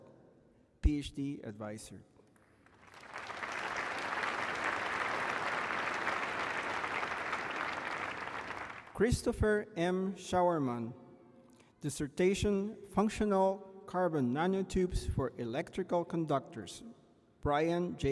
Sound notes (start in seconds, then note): 4.9 applause